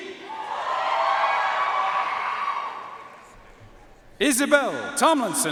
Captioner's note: audience cheering and applauding